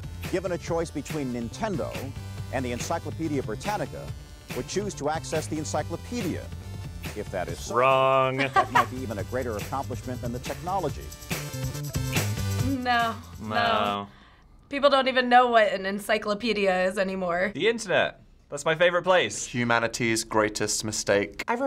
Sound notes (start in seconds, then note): 8.2 laughing